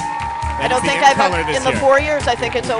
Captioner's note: voiceover